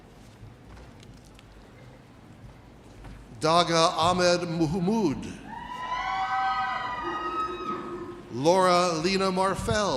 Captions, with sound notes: Dogah Ahmed Mahmoud. (audience cheers) Laura Lena Morphel.